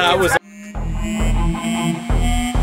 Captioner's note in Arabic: يضحك; موسيقى إلكترونية مبهجة